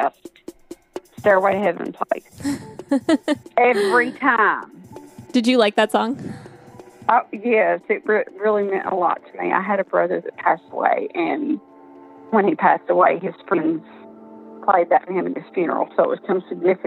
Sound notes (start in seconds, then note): 2.4 laughs